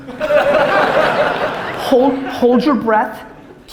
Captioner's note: audience laughter